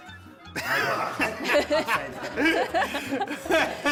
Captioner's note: laughter